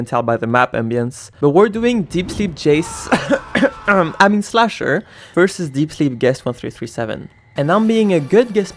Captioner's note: cough